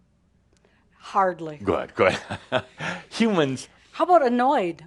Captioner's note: Adamus chuckles